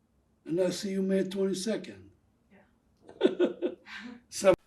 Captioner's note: laughing